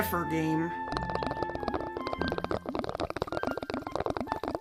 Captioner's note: sounds of a bong being used is heard